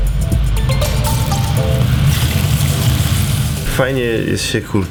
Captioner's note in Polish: skwierczy